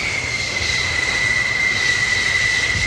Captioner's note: plane noise